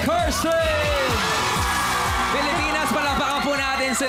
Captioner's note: clapping, cheering